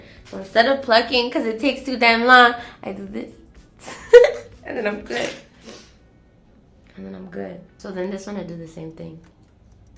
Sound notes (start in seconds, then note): 3.8 laughs